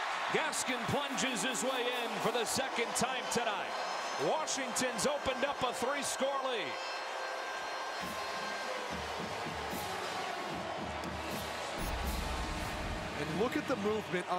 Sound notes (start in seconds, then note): 7.5 siren